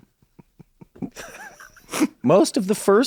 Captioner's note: laughs